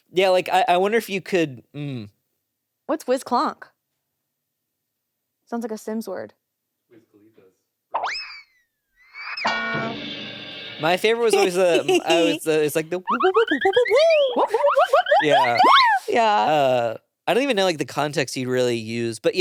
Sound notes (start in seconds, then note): 8.0 whistle whistling; 9.4 horn honking; 9.7 cymbal crashing; 13.2 whooping; 13.4 whistle whistling